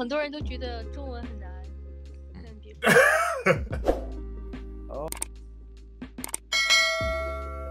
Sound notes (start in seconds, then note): 2.8 laughs